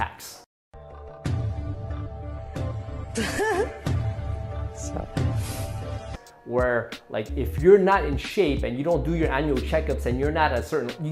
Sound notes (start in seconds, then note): 3.1 female laughter